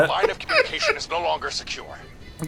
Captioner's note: laughs